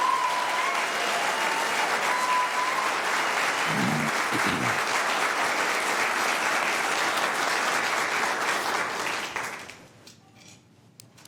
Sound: applause

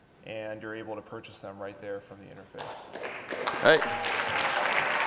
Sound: applause

